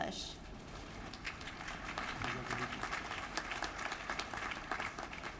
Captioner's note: applause